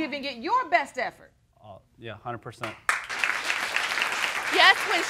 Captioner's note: audience applauding